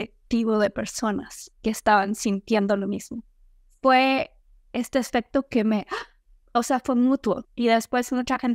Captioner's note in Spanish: suspiro